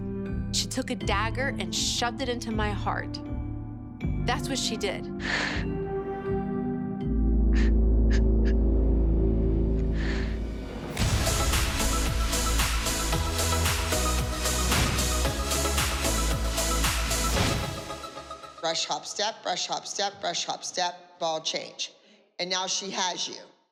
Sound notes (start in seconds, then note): 5.2 sniffling; 7.1 sobbing quietly; 11.2 upbeat music